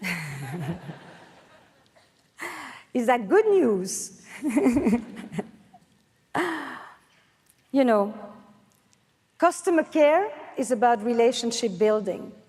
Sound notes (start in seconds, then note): 0.2 laughs; 4.6 laughs